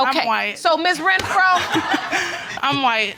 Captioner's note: laughing